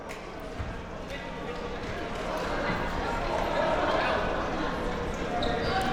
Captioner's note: spectators and players chattering